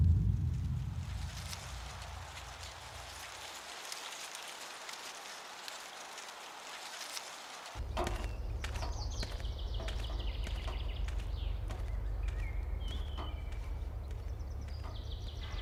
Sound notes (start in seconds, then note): 2.6 rustle of leaves; 9.8 birds are tweeting